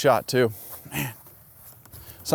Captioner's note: grunts